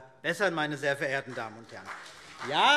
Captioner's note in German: Beifall CDU und BÜNDNIS 90/DIE GRÜNEN